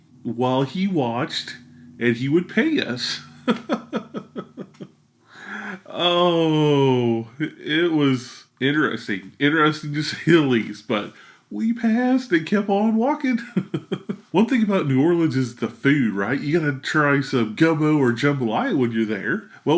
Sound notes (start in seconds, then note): 3.5 laughs